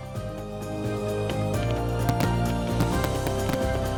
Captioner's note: fireworks exploding